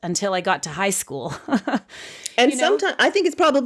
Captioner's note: chuckling